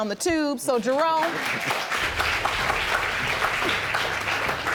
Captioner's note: audience laughing